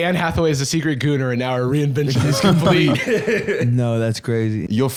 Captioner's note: laughs